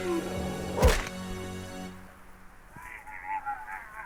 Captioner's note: suspenseful music; fist thuds